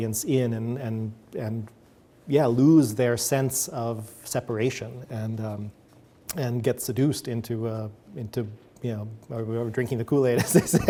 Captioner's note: chuckles